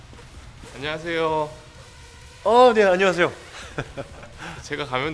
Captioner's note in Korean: 웃음